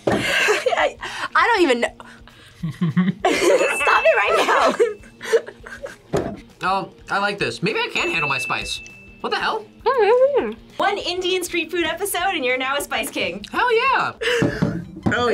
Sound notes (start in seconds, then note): 0.2 laughs; 9.8 mumbles